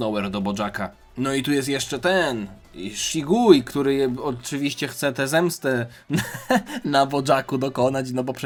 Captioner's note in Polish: śmiech